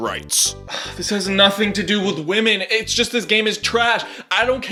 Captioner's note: sigh